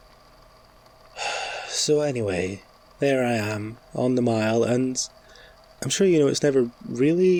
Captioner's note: sigh